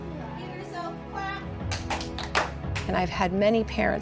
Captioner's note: students clapping